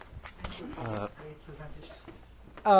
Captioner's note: speaking faintly